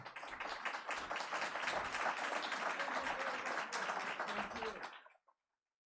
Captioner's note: all applauding and chattering